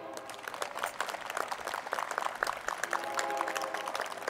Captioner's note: crowd applauding